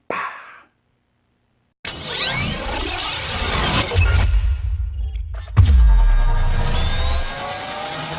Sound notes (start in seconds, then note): 1.9 explosion booming; 2.2 electronic music